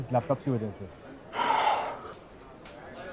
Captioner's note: Sighs